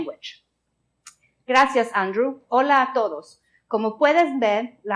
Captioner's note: spoken in Spanish